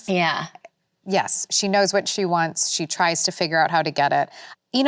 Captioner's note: none